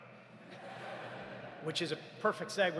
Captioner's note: audience laughs